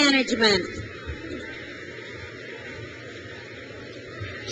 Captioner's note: crowd cheers